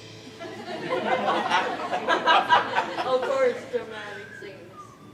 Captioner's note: laughter, crosschatter